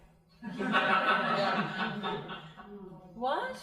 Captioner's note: crowd laughing